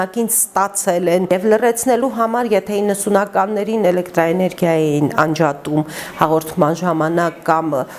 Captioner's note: TVs and radios